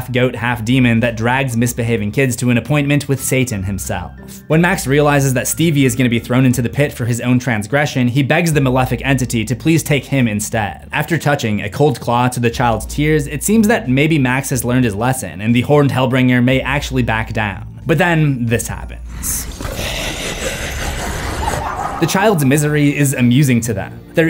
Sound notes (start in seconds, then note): 19.1 Krampus laughter